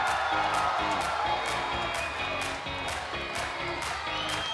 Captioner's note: cheers & applause